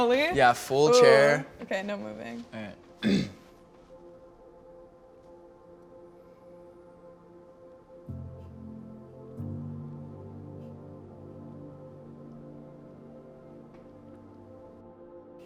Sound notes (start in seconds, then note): 3.0 clears throat; 7.6 soft music plays